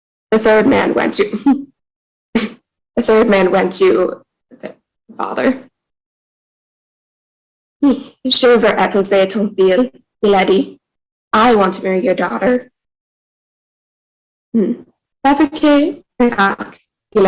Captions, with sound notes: the third man went to the third man went to the father [Speaking in French] i want to marry your daughter um